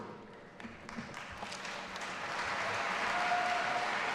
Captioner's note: audience applauding